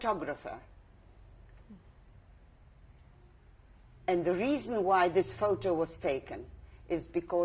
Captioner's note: pauses for 3 seconds